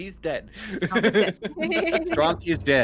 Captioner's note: Calla laughs; Cornette laughs